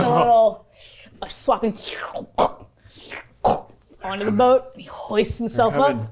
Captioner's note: squelch noises